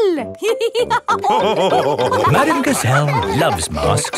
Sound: all laughing

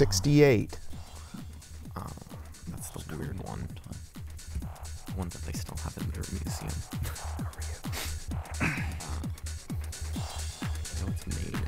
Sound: wispering

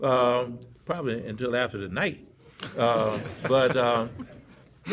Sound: laughter

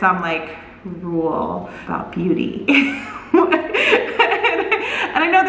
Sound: laughs

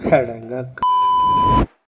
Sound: beep

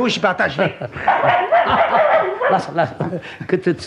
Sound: the puppy barks

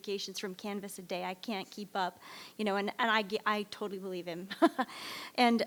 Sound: laughs

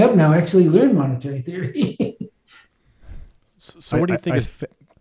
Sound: laughs

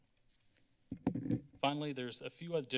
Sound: mic crackling

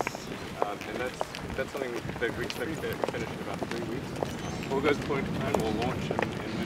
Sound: foot steps

